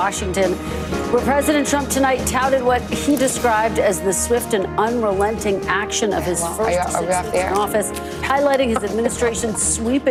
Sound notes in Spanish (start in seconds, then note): none